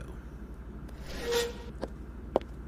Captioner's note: chair scrapes